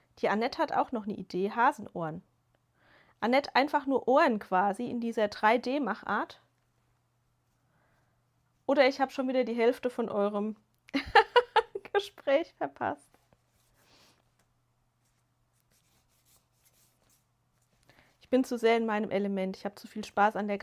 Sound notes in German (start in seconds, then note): 10.9 gelächter